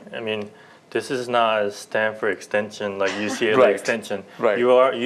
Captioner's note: laughter